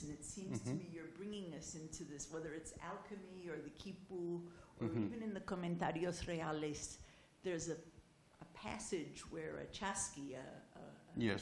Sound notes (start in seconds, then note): 6.5 spanish